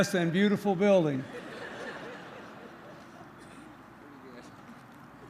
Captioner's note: laughter